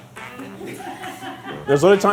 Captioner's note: laughing